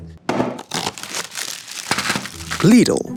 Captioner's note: plastic crinkling; paper rustling